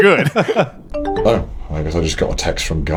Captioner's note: all laughing; phone chiming